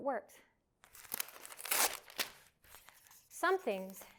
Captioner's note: paper tearing